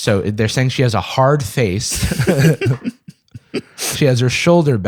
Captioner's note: laughter